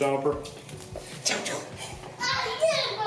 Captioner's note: imitating whooshing